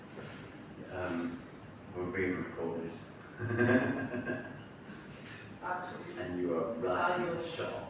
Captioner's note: laughing